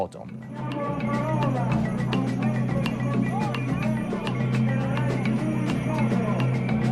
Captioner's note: speaks in Italian; voices over loudspeaker; drums play